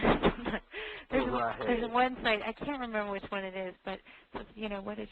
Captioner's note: laughter